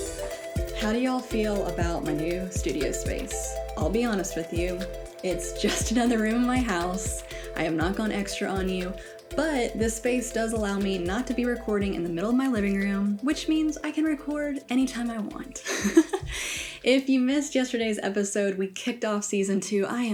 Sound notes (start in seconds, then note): 15.6 laughs